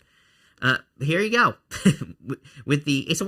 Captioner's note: laughs quietly